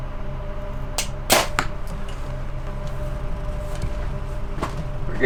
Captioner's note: arrow whooshes